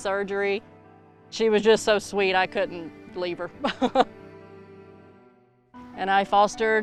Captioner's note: laughs